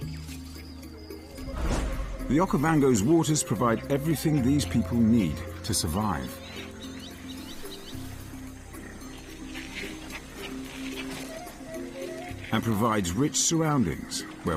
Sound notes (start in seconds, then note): 4.9 birds chirping; 4.9 dramatic music